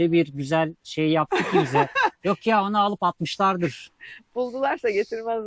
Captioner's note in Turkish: kahkaha